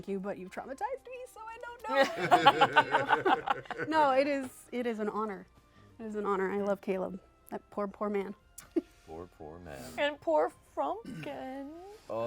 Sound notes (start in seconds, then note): 1.9 laughter